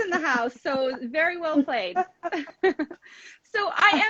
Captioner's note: laughs